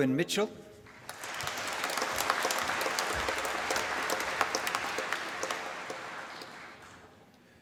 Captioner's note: applause